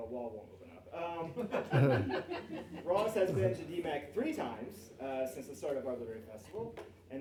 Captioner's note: laughing